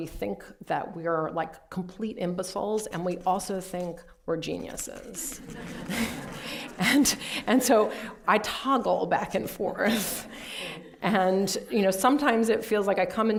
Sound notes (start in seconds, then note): 5.4 laughter